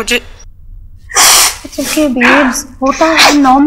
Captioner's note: Sniffling